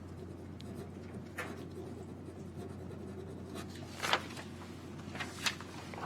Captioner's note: pen scribbling on paper